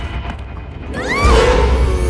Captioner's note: scream